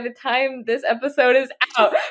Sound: laughs

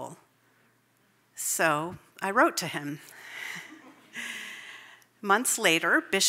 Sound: chuckles

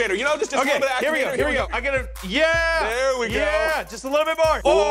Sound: guys cheering

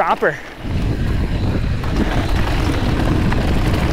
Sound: wind blows

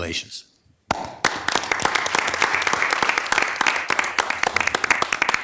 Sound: attendees clapping

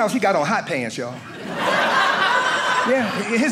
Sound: audience laughing

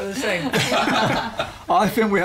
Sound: laughter

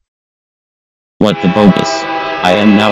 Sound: train horn blowing

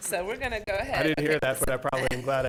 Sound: laughs

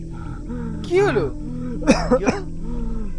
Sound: breathes heavily

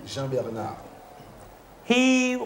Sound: speaking in local tongue

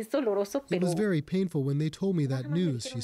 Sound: speaking Foreign Language

